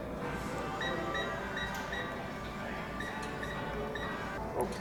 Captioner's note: remote beeping